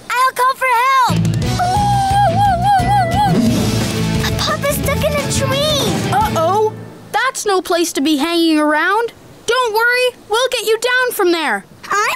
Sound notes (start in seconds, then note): 3.8 howling